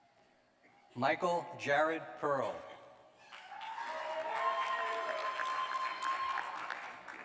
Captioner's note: cheers and applause